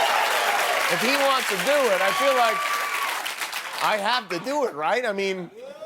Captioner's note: laughter and groans